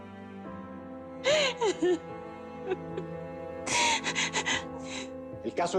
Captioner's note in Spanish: Sollozos